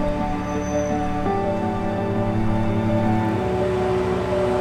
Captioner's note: traffic sounds